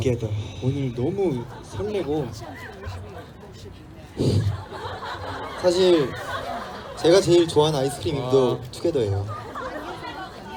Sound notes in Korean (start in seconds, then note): 4.4 웃음; 9.2 웃음